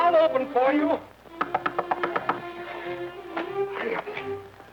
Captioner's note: Isabella knocking